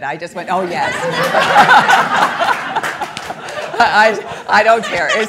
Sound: all laughing

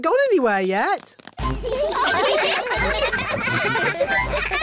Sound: laughter

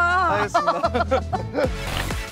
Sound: laughs

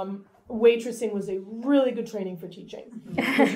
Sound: laughter

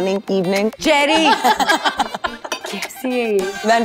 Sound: Vandy & Cherry giggling

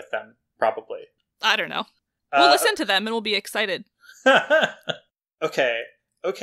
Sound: laughs

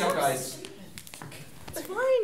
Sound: footsteps

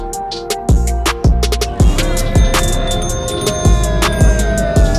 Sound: bike bells ringing

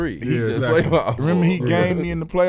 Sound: laughing

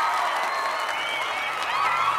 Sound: cheering and applause

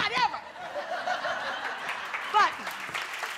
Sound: applause

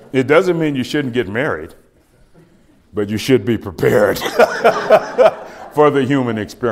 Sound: laughs

